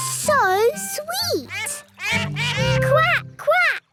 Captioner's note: all laugh